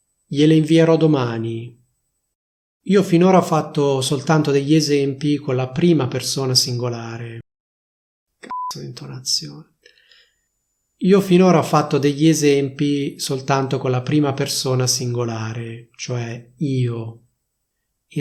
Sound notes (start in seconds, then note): 8.4 beep